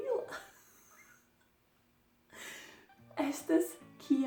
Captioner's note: laugh; laughing